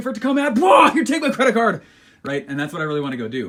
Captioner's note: screams